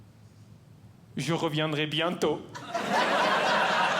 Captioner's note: speaking French; audience Laughing